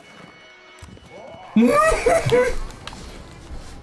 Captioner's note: laughs